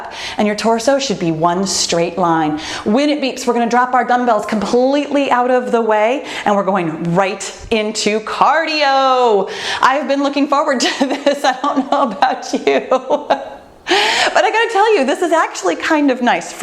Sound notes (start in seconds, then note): 12.7 laughing; 12.7 laughs